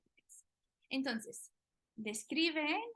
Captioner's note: speaking spanish